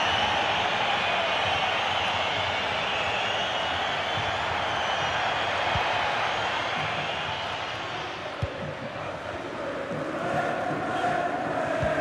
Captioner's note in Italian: Applauso